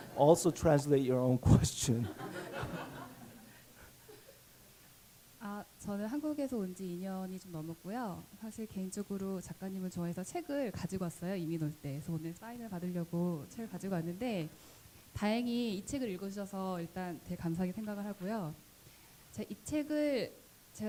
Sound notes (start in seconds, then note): 2.0 laughter; 5.2 audience member speaking Korean